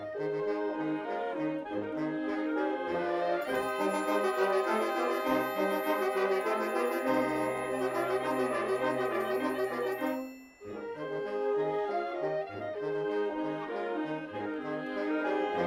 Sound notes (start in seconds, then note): none